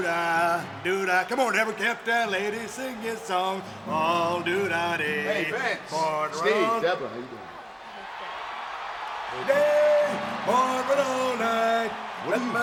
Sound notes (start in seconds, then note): 0.1 rhyming; 4.4 rhyming; 9.3 rhyming